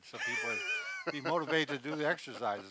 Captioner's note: laughter